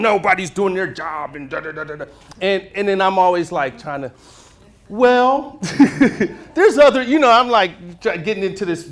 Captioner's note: inhales